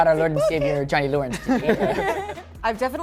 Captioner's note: laughter